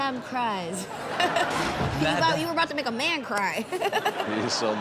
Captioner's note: laughs; laughs